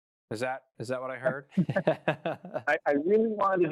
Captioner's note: laughs